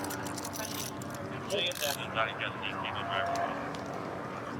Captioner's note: dispatch chatter